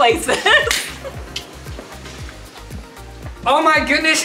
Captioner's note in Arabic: يضحك